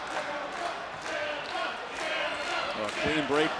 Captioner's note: crowd chants "Ciampa"